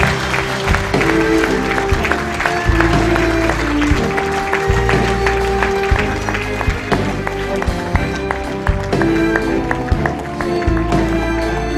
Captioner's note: applause